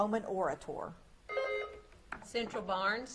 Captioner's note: buzzer beeps